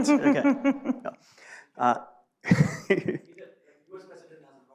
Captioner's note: laughs